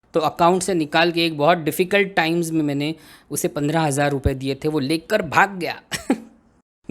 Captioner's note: amused laugh